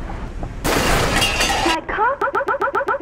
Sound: loud crash

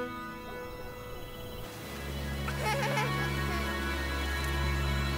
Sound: children laughing

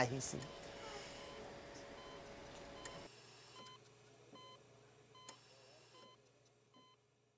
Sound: machine beeping

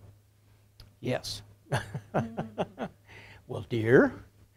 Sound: laughter

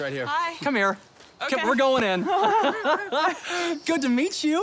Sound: laughs

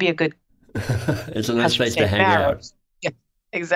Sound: laughs

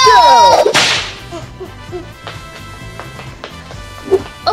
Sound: whip cracking

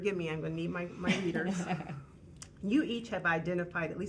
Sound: woman chuckling

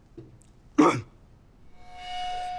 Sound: coughing

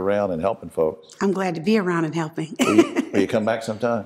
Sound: chuckles

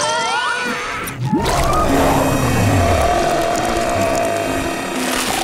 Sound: screaming; roaring

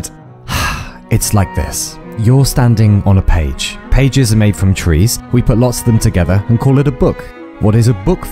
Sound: sigh

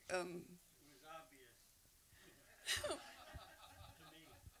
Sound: laughter

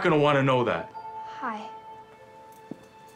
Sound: Traci, softly

